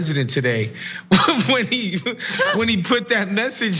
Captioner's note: laugh